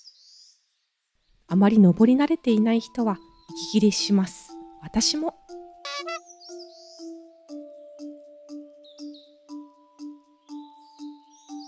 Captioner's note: laughs